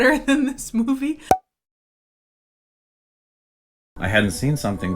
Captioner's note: popping